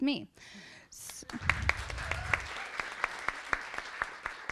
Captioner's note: audience applauding